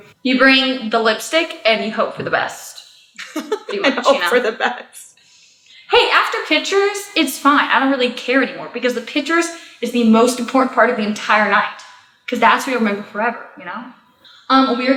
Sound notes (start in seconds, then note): 3.2 laughs